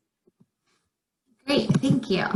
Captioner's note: none